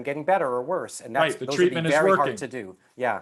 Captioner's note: murmurs